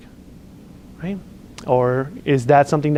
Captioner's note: lip smacks